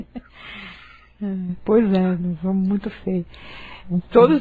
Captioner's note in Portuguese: Risos